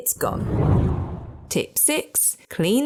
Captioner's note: air whooshing